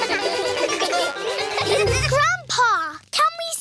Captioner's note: all giggle